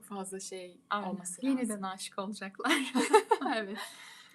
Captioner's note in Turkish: kahkaha